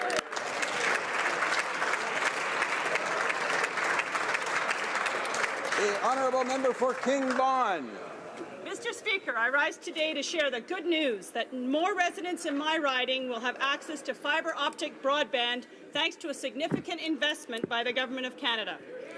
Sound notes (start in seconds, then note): 7.7 some Applause